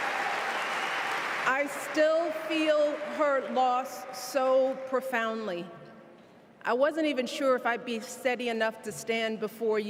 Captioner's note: cheers and applause